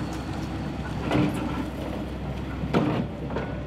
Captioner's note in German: Klappern, Rumpeln